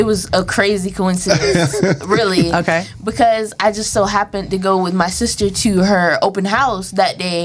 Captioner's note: laughter